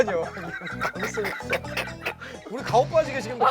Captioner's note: only the two older guys break out in laughter